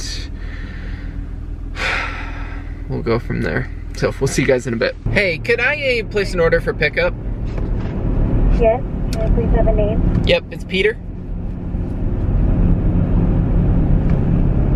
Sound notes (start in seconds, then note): 1.7 heavy sigh; 8.2 woman on phone